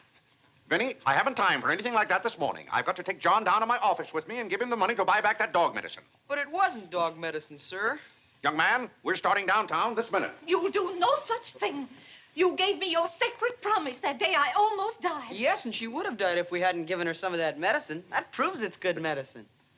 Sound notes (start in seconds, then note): none